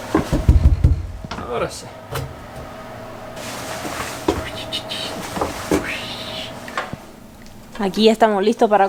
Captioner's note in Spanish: ruido de agua